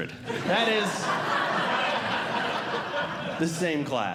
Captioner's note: audience Laughing